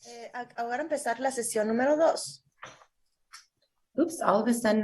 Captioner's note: translator speaking in Spanish